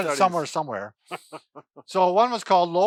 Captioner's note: laughs